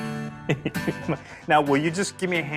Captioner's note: chuckles